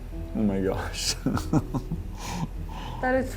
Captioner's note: nervous laughter